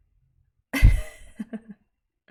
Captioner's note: laughs